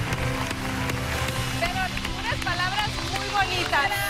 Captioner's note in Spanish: Aplausos